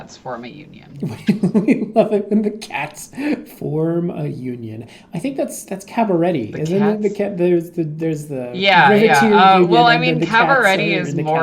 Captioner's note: giggling